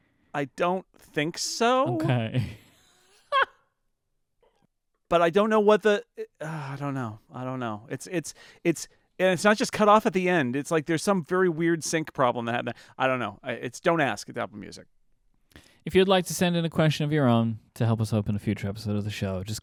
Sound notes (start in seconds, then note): 1.8 laughing